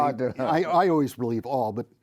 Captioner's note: chuckles